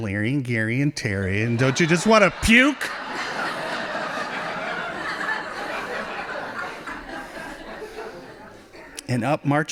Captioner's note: laughing